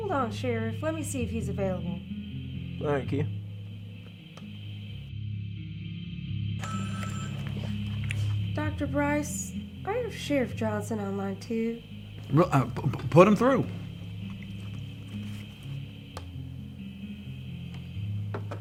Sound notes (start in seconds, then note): 6.6 telephone ringing; 14.7 gentle music